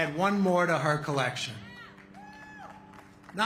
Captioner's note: applause